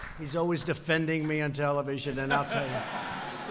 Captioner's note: laughter